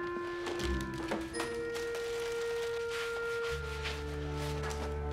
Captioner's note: rustling